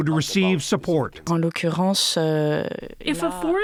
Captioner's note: through translator